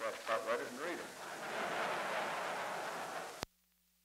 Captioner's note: laughter